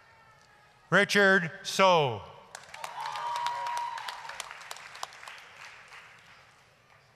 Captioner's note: applause, cheering